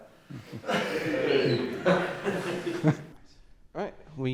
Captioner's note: laughter; light cheer